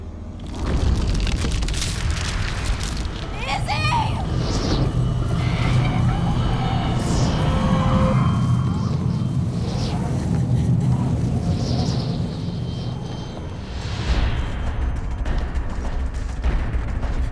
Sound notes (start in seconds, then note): 0.3 body rumbling; 0.3 crackling; 5.3 distant voice wailing; 8.1 wind rushing; 14.1 suspenseful music